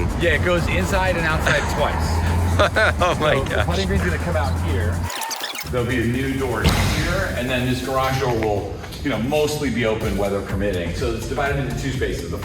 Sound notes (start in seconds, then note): 0.5 laughing